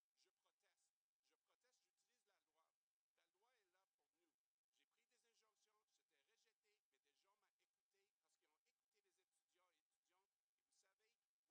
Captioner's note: speaking French